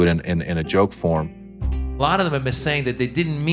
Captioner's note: soundbite of archived recording